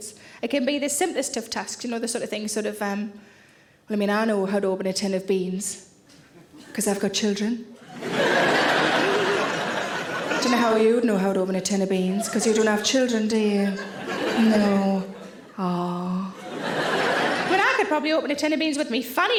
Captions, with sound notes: It can be the simplest of tasks, you know the sort of thing, sort of, Well, I mean, I know how to open a tin of beans, 'cause I've got children. (audience laughing) "Don't know how'd you know how to open a tin of beans, 'cause you don't have children, do you? "No, aw!" (audience laughing) But I could probably open a tin of beans with my fanny,